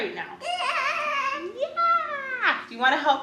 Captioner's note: babbling